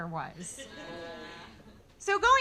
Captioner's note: audience laughing